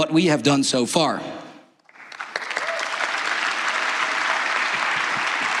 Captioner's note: applause